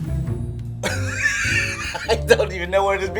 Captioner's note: laughs